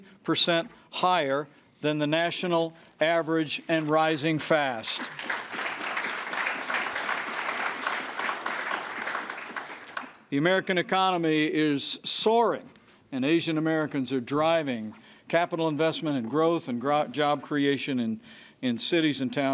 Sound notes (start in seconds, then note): 4.8 applause